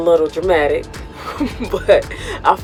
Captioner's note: laughs